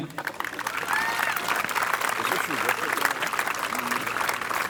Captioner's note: audience applauding